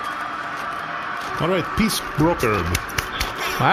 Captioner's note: distant crowd cheering